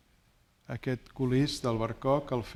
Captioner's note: speaking spanish